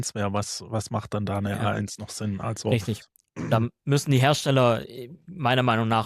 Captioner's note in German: räuspern